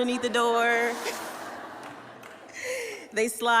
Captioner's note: laughter